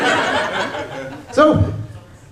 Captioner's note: laughter